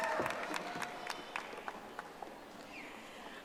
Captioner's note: audience applauding